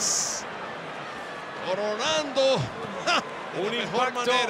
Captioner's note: laugh